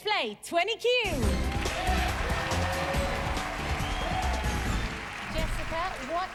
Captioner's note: cheers and applause